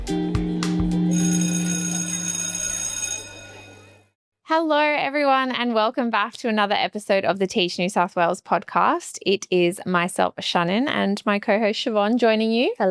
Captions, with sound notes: (bell rings) Hello, everyone, and welcome back to another episode of the Teach NSW Podcast. It is myself, Shannon, and my co-host Siobhan joining you.